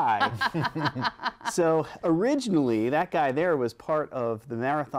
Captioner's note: laughter